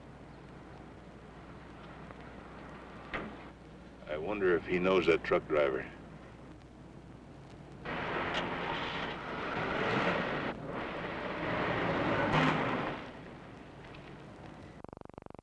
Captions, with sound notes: - I wonder if he knows that truck driver. (truck engine revving) (car engine revving)